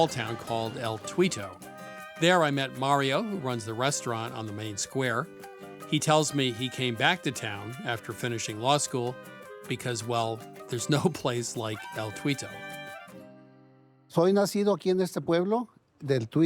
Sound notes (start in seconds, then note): 10.5 speaking Spanish